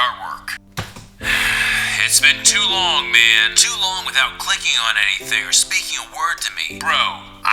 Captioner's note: sighing anger